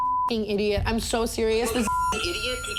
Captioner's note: beep